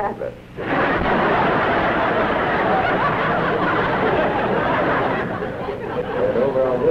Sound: laughter

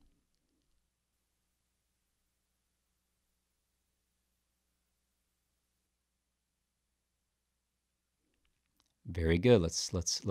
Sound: silence

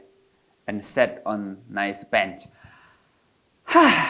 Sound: exhales

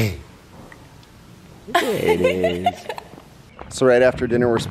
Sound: laughs

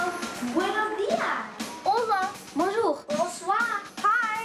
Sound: foreign language

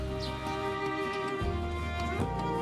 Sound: birds chirping

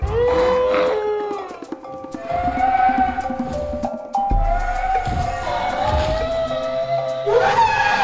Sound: baby Brachiosaurus Sounds

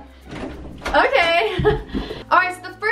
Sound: laughs

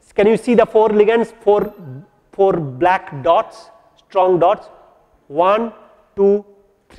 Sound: collision

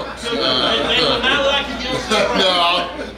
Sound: crowd laughing

